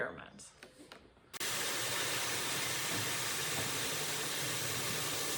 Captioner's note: water splashing